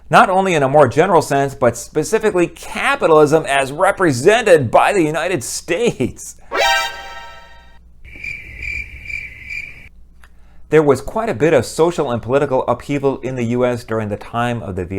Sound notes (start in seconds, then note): 8.1 crickets